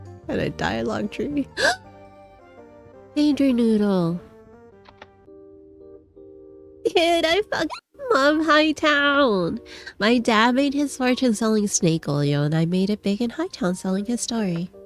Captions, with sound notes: What kinda dialogue tree... [gasps] Danger noodle~ "DUDE I [HYUCKING] LOVE HITOWN!!!" "MY DAD MADE HIS FORTUNE SELLING SNAKE OIL AND I MADE IT BIG IN HITOWN SELLING HIS STORY."